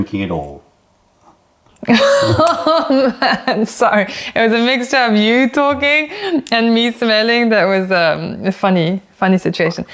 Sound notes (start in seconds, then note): 1.9 laughter